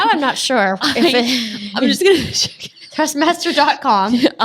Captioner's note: ladies laughing